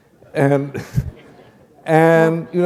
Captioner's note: laughter